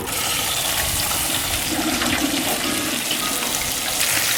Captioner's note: oil sizzling